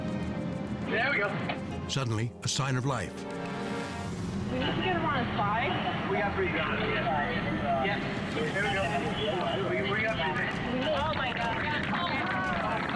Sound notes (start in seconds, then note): 4.6 people chattering